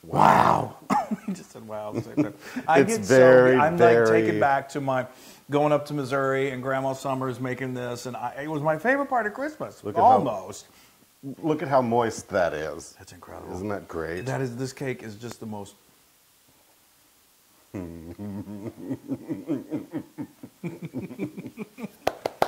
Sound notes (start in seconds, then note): 0.5 laugh; 17.8 laugh; 19.4 applause